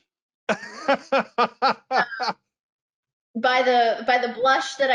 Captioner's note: laughs